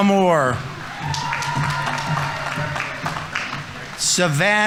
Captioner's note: audience members cheering; audience applauding